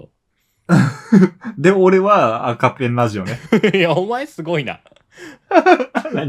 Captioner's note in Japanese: 笑い; 笑い